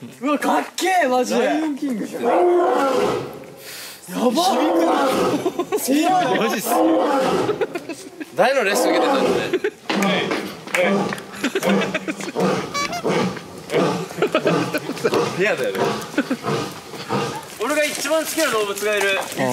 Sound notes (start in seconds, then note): 2.1 roars; 9.9 rhythmic claps